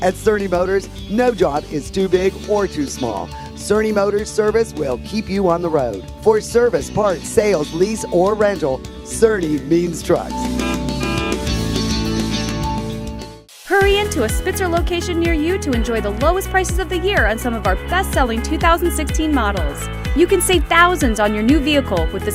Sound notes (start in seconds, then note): 10.5 horn honks